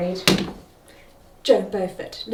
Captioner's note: pointer thuds